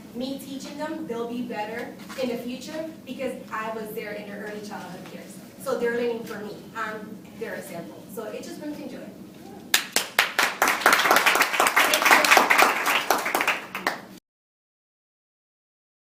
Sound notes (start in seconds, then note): 9.7 applause